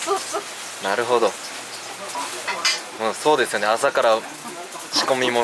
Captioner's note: laughs